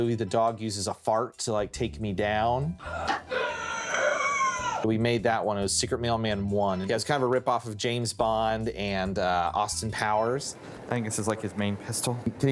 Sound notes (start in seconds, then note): 2.8 gasping